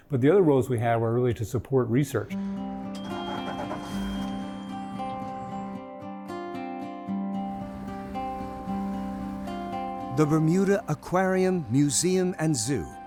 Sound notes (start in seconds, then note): 2.3 gentle music; 2.8 boat engine starting; 7.5 boat engine roaring; 9.0 water splashing